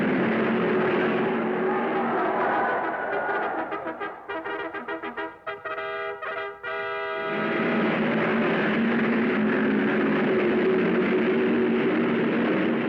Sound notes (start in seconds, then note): 1.9 crowd cheering; 7.3 cars revving